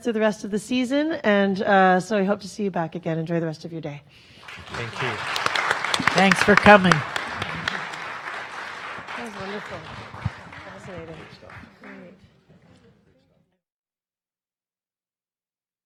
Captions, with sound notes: through the rest of the season. So we hope to see you back again. Enjoy the rest of your day. (audience claps) - Thank you. - Thanks for coming. - That was wonderful, fascinating, great.